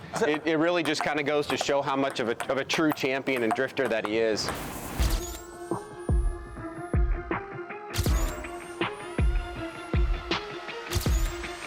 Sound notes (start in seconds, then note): 4.3 graphic whooshes; 5.2 upbeat music plays; 7.9 flash bulb clicks twice